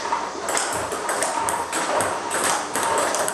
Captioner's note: ball ping pong hitting